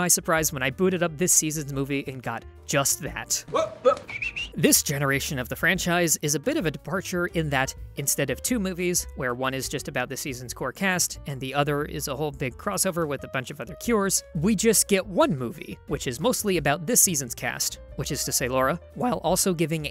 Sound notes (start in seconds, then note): 3.9 whistles